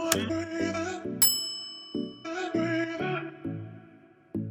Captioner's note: button clicking; upbeat music; bell ringing